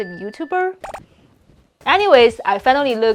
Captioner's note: bubbles popping